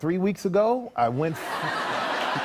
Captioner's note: laughter